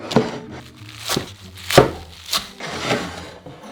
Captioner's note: knife chopping kale